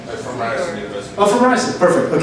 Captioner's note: voiceover